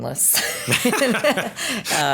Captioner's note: both laughing